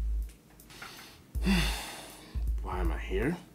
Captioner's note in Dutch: Drew ademt zwaar uit